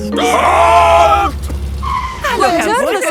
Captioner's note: brakes squeal